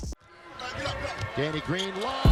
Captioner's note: crowd cheering